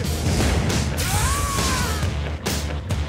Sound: Joker guffaws; electrical zap

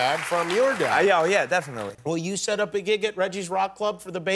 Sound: cheers and applause

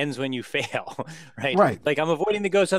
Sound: laugh

